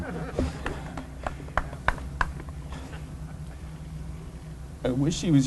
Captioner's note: laughter